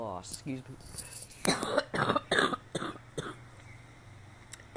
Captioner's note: coughs